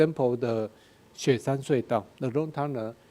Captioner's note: speaking in a foreign language